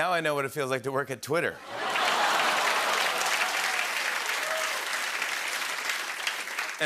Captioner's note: laughter and applause